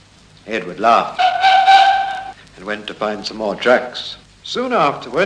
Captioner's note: train whistle